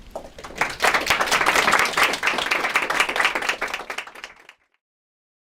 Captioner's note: applause